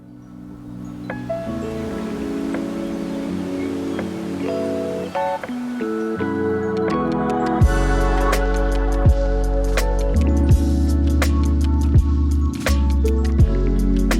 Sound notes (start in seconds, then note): 0.6 slow relaxing music; 0.6 waves whooshing